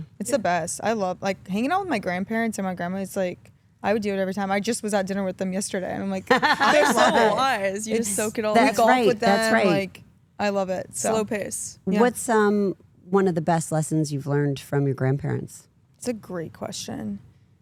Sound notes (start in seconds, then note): 6.3 Stephanie laughs